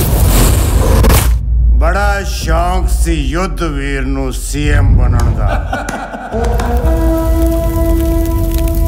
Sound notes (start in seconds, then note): 5.4 laughs